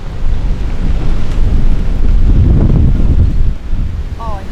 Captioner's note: wind & rain